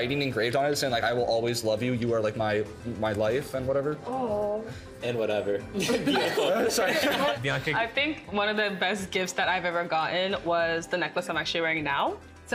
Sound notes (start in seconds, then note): 5.8 laughing